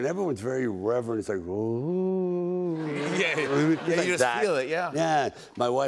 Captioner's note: humming